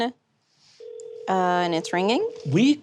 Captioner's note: phone ringing